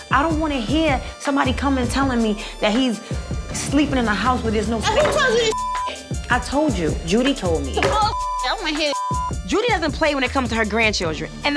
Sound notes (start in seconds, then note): 5.4 beep; 7.8 beep